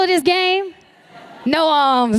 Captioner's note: laughter